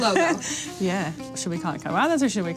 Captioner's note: laughs